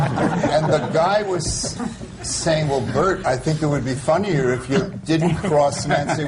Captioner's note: laughter